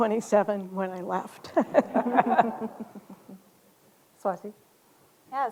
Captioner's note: laughter